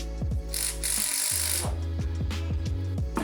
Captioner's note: screwing